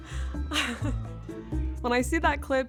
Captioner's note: laughs